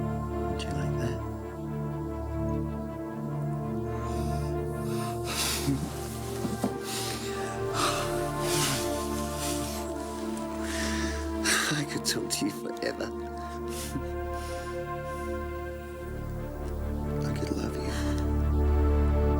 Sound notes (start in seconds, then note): 4.7 laughs; 7.5 sighs